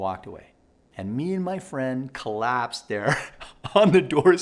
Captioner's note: laughing